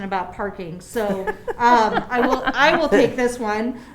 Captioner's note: laughing